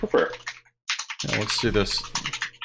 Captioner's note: keyboard keys clanking